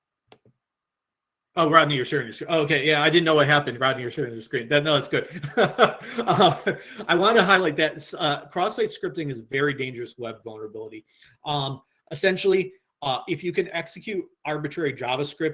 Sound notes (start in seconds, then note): 5.1 laughs